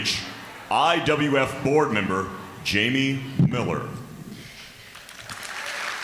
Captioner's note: applause